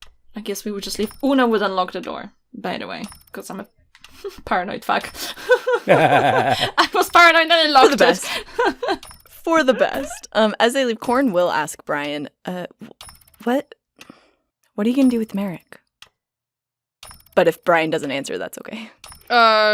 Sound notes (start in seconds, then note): 5.1 laughs; 5.1 laughter